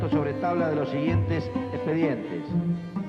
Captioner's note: speaking Spanish